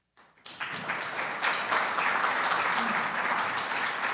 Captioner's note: audience clapping